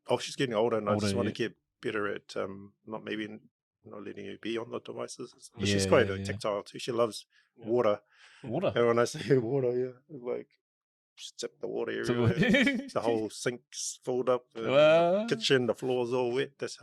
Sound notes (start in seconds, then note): 12.1 laughs